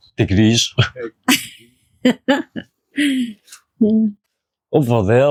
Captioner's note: unicorn laughs